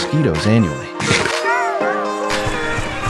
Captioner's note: Piranha plant death; cry